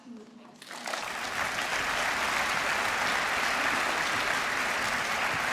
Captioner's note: applause